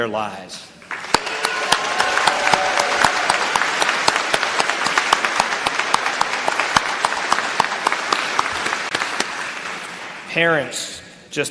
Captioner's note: applause